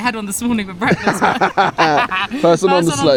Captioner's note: both laugh